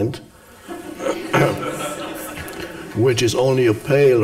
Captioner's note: audience laughs